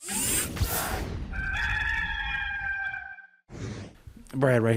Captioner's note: rooster crowing